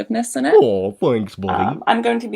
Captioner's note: none